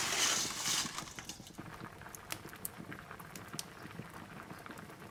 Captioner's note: pasta shaking; water boiling